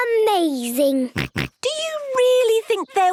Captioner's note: snorts